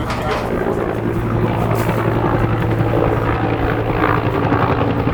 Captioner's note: chopper whirling